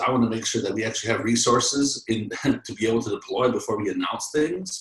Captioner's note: laughs